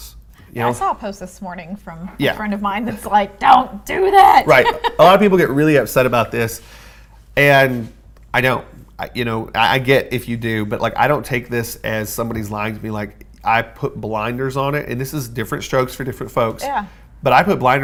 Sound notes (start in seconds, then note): 4.1 laughs